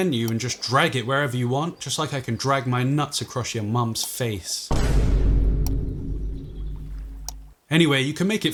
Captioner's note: boom sound